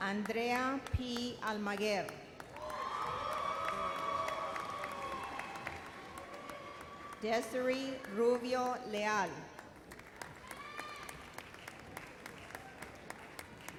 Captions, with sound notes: Andrea P. Almaguer. (audience cheers) Desaree Rubio Leal. (audience applauds)